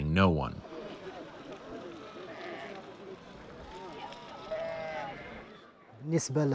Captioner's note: livestock sounds